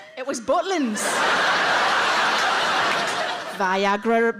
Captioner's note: audience laughs